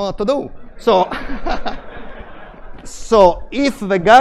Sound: laughter

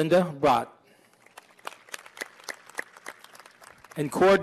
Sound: applause

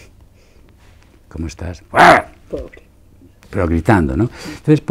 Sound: he grunts

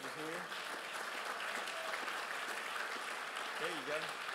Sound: crowd applauds

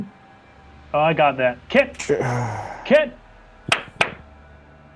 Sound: claps

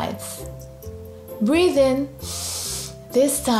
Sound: breathes in deeply

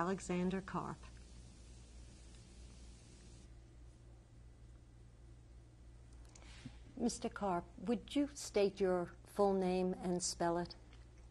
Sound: pauses for 6 seconds

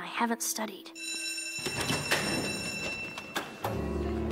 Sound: school bell rings

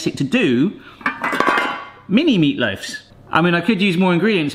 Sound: pans clang

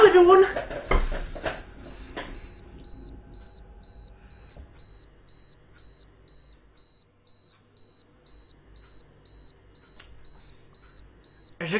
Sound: camera timer sound

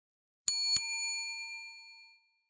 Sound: ding

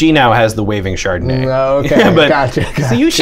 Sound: laughter

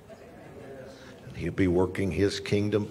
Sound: congregants murmuring

